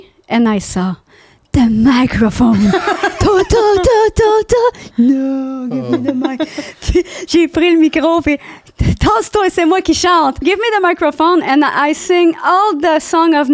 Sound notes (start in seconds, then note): 5.0 laughing; 7.1 in french